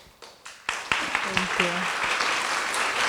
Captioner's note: applause